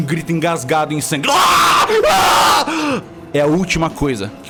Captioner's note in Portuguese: Grito estridente